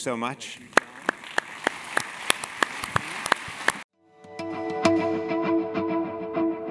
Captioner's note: applause